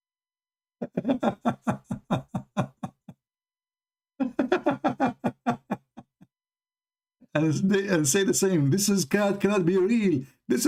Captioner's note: Ketawa